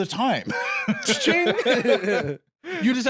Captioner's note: both laugh